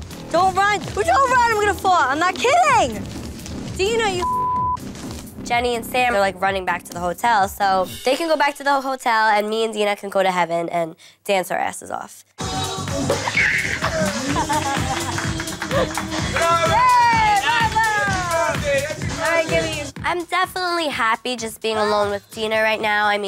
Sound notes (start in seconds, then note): 4.2 beep